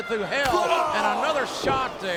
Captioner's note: Shawn groans